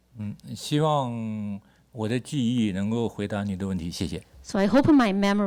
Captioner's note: speaks Mandarin